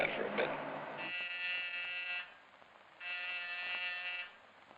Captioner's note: phone ringing